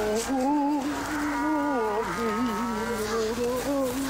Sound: Walter humming

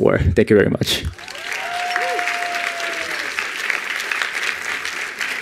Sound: attendees applauding

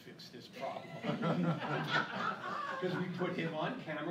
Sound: laughing

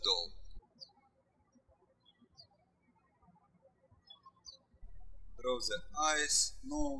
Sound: birds chirping

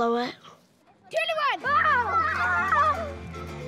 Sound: children scream

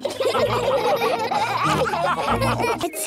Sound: all laughing

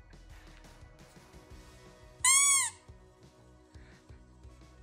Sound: squeaker noise

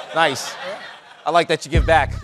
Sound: chuckling

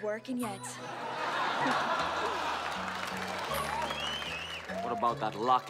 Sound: all laughing

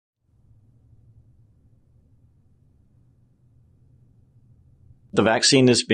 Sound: silence

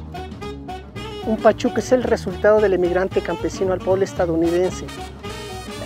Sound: speaking foreign language

